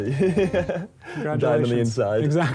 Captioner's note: chuckles